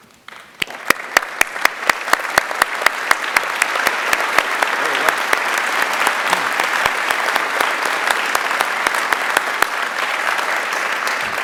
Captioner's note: applause